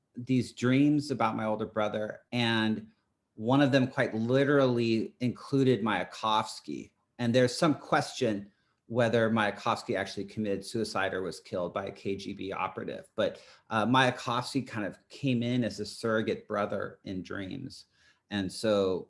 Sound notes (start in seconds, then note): none